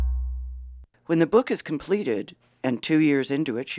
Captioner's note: voiceover